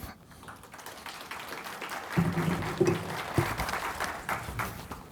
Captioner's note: audience clapping